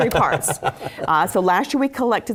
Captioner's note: laugh